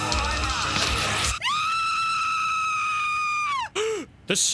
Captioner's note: screaming